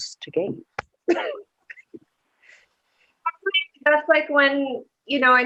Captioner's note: laughter